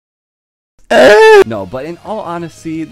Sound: depressed goblin noises

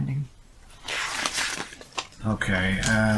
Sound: paper rustling

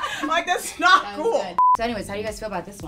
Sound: beep

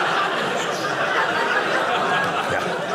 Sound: audience laughing

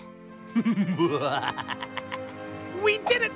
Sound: evil laughter

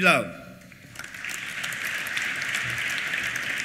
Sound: applause

